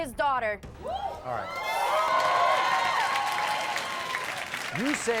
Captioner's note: audience cheers